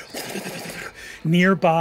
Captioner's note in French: sifflement